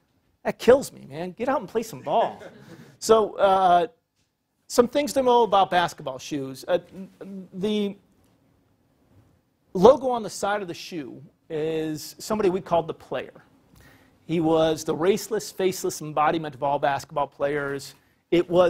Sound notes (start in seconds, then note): 2.0 laugh